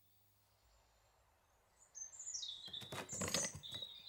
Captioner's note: birds twittering